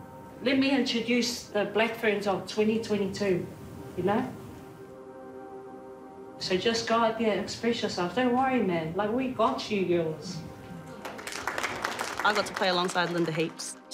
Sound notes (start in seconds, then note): 10.8 audience applauding